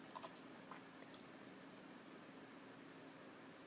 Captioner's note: clicking